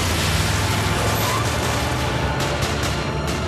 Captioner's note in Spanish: Disparos; Ruido del vehículo; Disparos